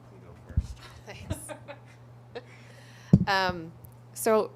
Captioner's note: laughter